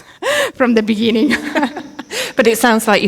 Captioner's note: both laughing